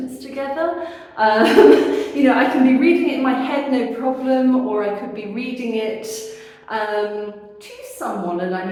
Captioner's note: laughing